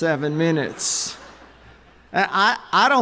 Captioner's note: chuckles